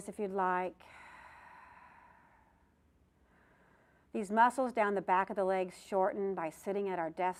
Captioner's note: breath sound